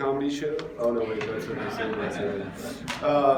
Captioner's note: laughter